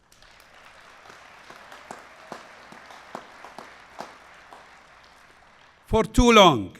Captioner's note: applause